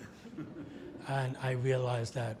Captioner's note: audience laughs